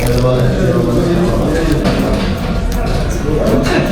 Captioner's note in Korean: 우걱 우걱 우걱